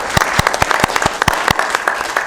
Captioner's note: applause